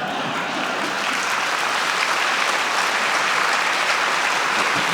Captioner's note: audience applauding